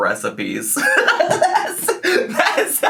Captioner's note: laughs